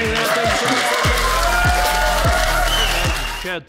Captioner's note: audience cheering